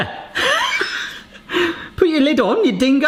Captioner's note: laughs